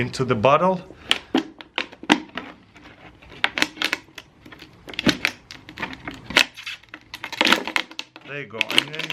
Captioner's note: weaving plastic